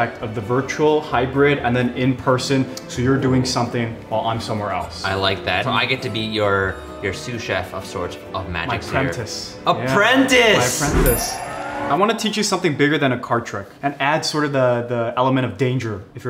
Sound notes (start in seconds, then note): none